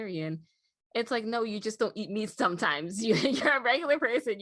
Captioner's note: giggles